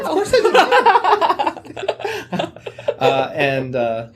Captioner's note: laughter